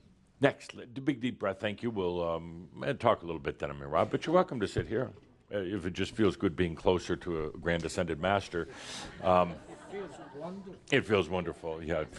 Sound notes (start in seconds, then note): 8.8 a few chuckles